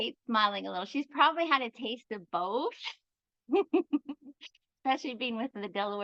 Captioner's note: giggles